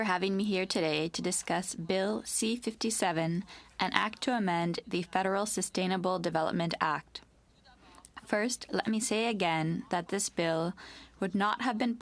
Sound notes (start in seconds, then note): 2.2 speaking French